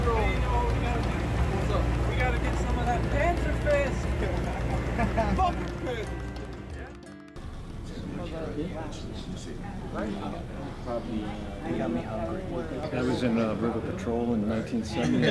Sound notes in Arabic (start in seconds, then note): 3.6 يضحك; 7.4 ثرثرة خفيفة